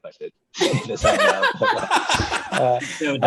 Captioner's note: laughing